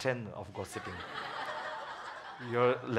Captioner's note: audience laughs